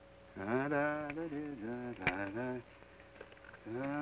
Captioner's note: hums melodically